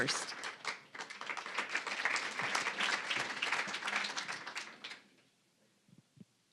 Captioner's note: applause